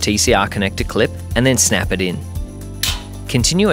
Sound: snaps

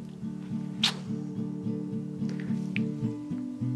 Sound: lips smacking

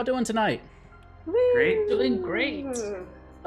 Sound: cheers

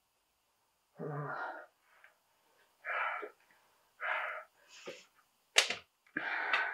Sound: male captive breathes heavily

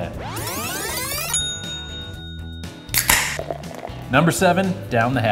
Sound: ding!

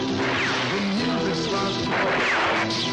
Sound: gunshot; gunshot

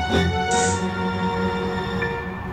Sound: spark

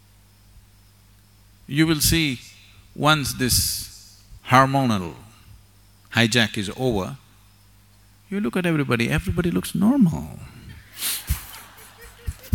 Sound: laughter

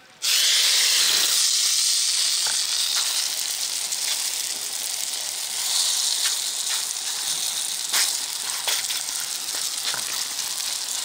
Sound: oil sizzles

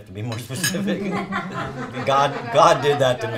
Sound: laughing

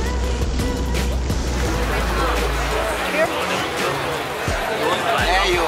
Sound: indistinct chattering

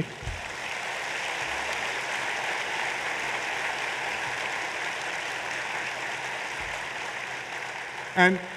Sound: applause

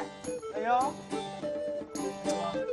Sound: sarcasm: ON

